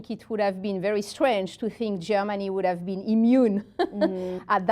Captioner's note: laughs